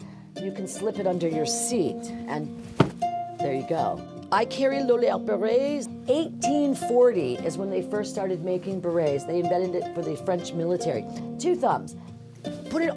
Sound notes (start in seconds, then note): 2.5 hat pops